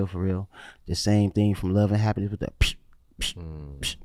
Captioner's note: beating